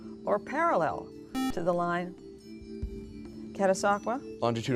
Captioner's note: buzzer